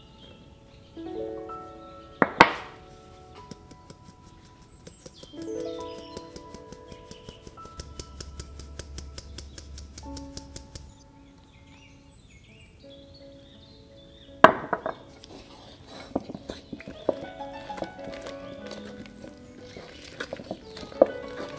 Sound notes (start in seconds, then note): 4.4 sifting; 14.6 happy piano music